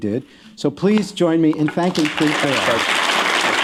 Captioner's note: applause